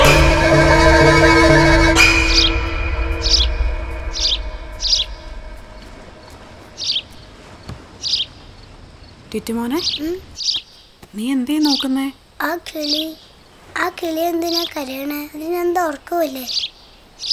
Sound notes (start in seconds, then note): none